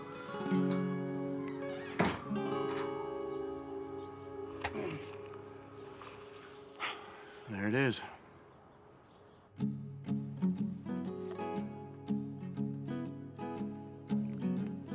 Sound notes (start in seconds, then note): 4.7 Isaac groans; 7.2 gasps; 9.4 gentle upbeat music